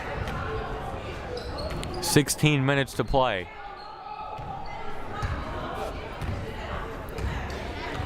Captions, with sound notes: 16 minutes to play. (crowd murmuring)